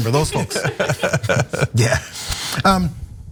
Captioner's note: laugh